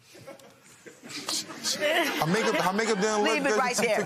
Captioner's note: stammering